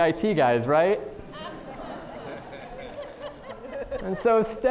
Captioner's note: audience laughing